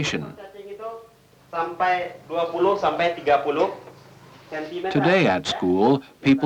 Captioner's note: Indonesian speech